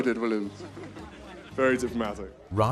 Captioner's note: laughing; voiceover